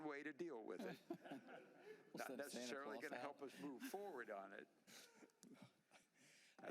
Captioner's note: laughter